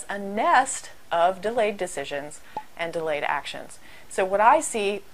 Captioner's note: pop